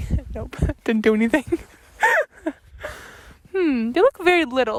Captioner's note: laughs